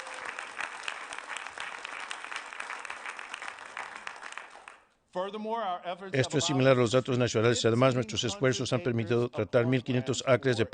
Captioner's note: applause